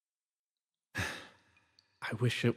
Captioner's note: sigh